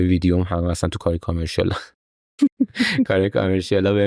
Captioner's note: laughs